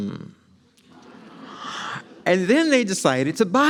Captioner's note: audience laughs